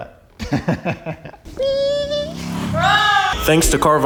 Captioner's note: laughs; motorcycle engine revving